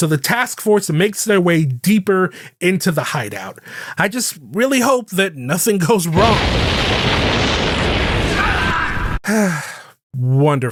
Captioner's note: explosion; sigh